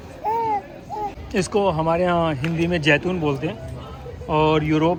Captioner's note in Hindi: रोने की आवाज़